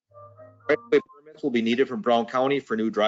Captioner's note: microphone breaks up